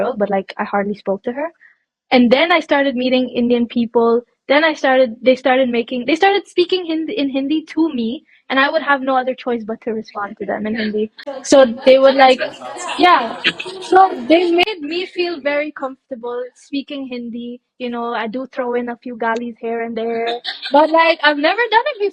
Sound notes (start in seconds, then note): 13.7 laughs